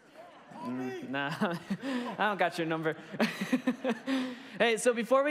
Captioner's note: laughs